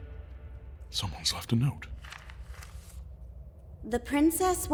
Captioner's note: paper unfolding